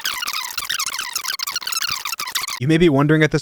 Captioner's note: tape screeching